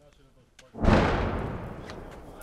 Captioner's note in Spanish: explosión cercana